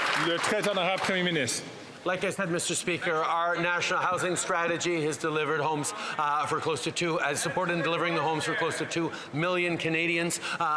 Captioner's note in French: voix de l'interprète